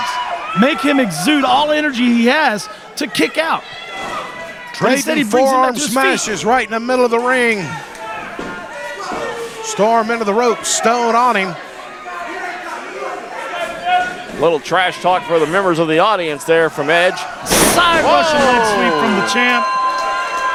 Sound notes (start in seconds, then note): 11.4 audience yelling; 17.4 body slamming